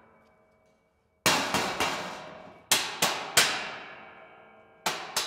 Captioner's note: hammer thudding